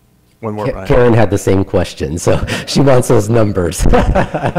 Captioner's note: laughter